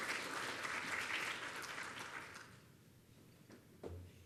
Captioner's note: applause